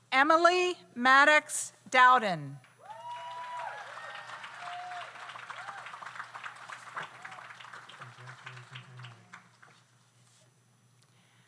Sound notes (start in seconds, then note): 2.8 audience cheers; 2.8 audience applauds